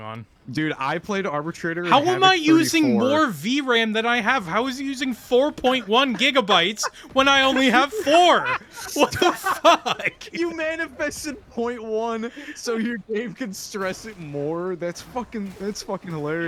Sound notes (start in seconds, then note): 9.0 laughter